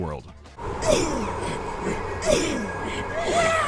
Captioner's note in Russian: ведьма пыхтит; ведьма кричит